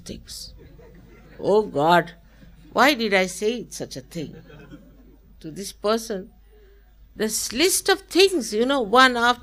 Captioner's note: laughter